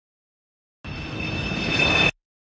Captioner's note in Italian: Ambience - Jet Flyby